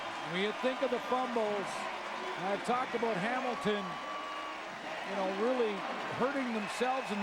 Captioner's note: applause